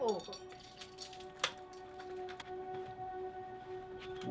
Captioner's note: keys clanging